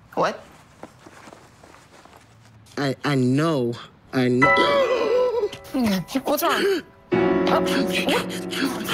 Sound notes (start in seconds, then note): 4.3 gasp; 7.3 gasping